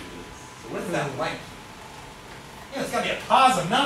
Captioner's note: speaks softly